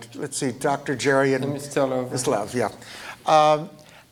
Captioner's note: French